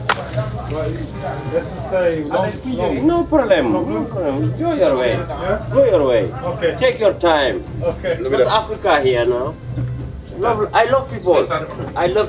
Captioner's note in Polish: rozmowa w j. angielskim